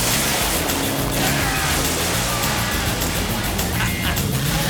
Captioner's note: car engines revving; tires screeching; John laughs